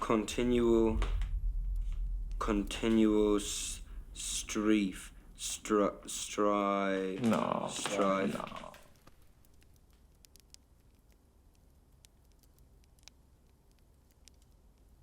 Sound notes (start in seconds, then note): 10.1 flames crackling